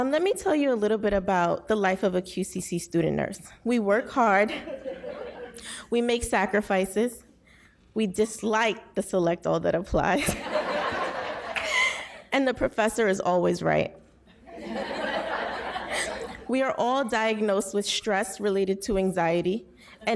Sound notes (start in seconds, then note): 4.5 audience laughs; 10.2 audience laughs; 10.7 laughs; 14.4 audience laughs